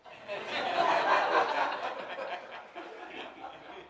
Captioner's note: audience laughs